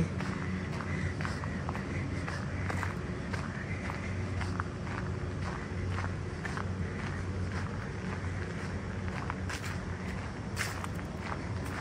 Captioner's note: walking on gravel